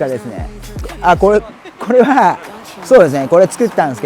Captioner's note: laughs